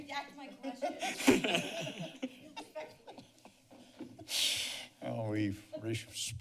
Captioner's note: laughter